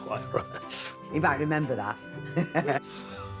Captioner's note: laughing; laughing